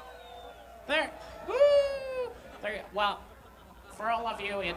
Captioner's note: cheers